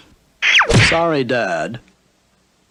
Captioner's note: smack!